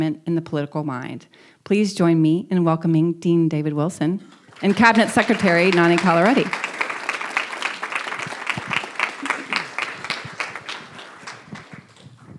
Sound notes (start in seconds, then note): 6.8 audience applauding